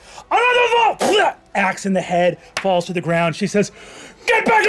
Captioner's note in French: grogne